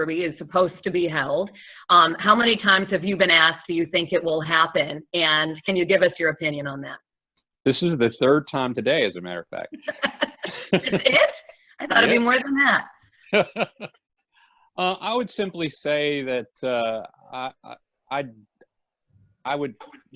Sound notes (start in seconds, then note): 9.7 laughter; 13.3 laughs